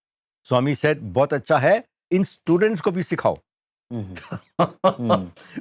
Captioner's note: laughter